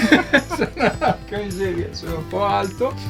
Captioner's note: laughs